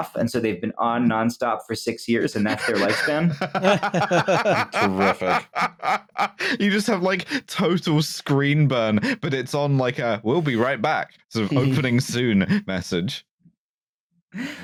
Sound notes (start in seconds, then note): 2.3 laughter